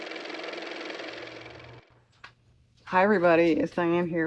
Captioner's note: car motor